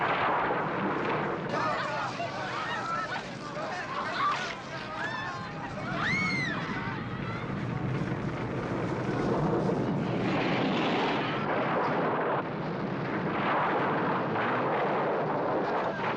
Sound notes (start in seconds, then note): 1.4 panicked Chattering; 3.6 woman Screaming